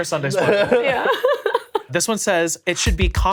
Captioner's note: laughs